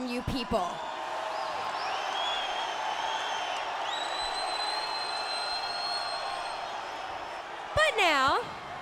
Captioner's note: crowd cheering